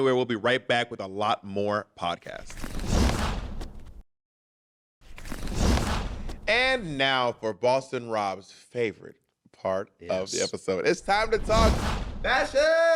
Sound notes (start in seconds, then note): 2.8 whoosh